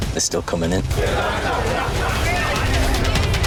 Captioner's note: customers continue chattering loudly; dramatic music